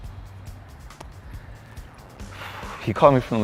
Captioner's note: deep breath